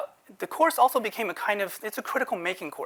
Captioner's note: none